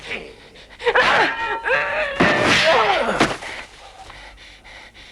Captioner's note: both grunting; Hundra panting